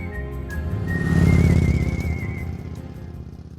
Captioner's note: gentle music; motor whirring